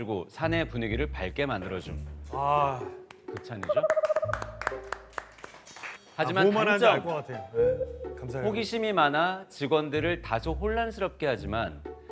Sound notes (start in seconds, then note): 3.6 the pleasant comment naturally draws applause